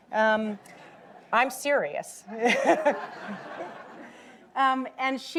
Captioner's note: audience laughing